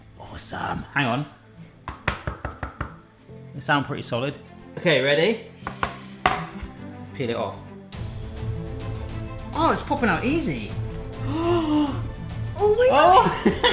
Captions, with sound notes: - Awesome, hang on. (knocking) They sound pretty solid. Okay, ready? Let's peel it off. (inspirational music) Ah, it's popping out easy. (gasping) Oh! - Oh my gosh.